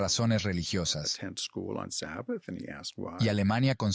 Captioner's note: Hablando idioma extranjero